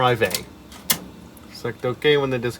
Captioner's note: another chunky floppy disk clunk